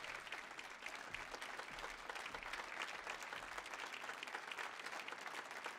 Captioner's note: audience applauding